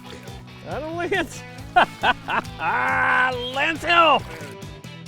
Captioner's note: laughter